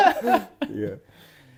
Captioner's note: laughs